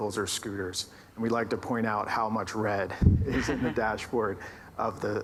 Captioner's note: laughs